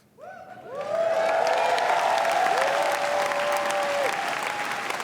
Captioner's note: audience cheers